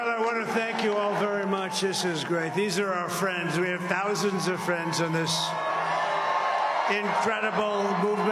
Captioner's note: crowd chanting "usa"